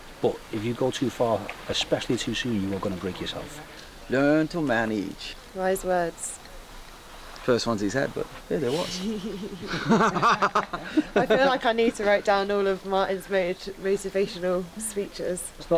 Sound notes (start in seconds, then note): 8.7 laughs